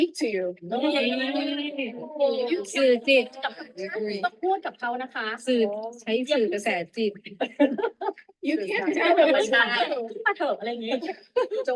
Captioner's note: background conversation in Thai